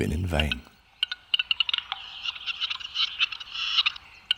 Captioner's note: bird croaking and squawking